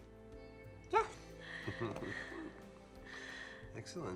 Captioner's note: chuckles